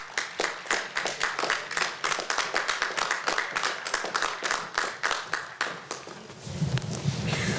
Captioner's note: applause